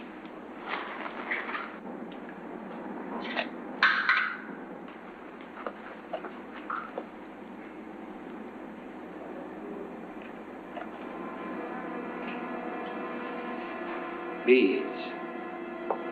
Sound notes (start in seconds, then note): 3.3 clattering; 12.0 suspenseful music